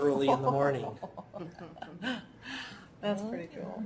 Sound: laughter

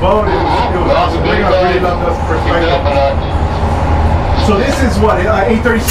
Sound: radio drowns out speaker

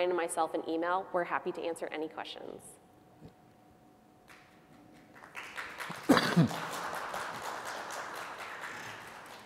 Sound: applause

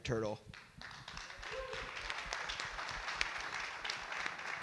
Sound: audience clap

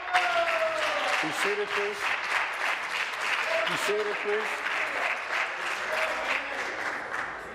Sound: applause

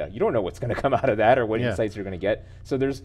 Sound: laughing

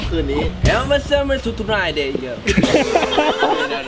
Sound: mumbling in English; laughs

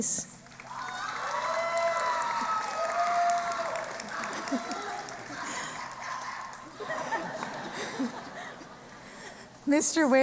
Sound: cheering and Applause

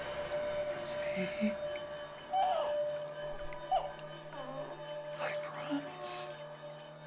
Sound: voice shaking

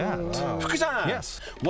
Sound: non-english speech

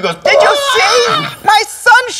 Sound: imitating elderly jewish woman

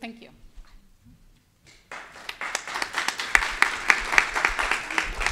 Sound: attendees clapping

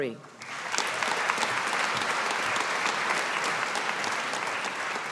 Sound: audience applauding

